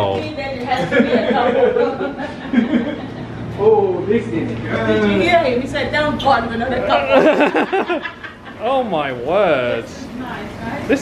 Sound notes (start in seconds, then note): 1.1 laughs; 6.9 laughs